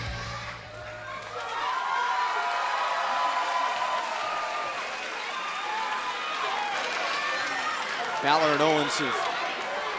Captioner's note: cheers & applause